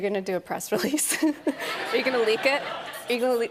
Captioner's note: laughter